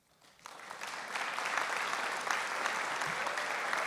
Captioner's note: applause